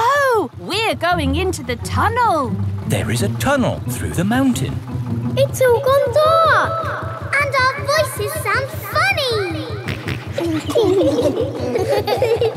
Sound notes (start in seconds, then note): 3.8 echoes; 9.9 snorts; 10.2 kids laughing